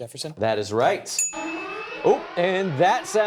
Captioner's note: alarm blares